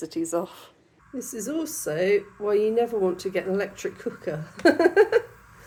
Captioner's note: laughing